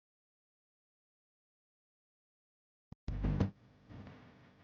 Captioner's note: none